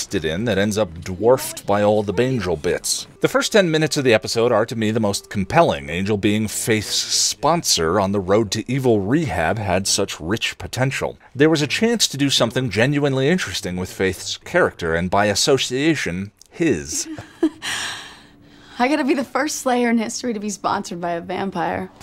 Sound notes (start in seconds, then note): 16.8 melancholy chuckle